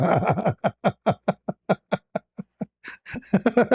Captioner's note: ketawa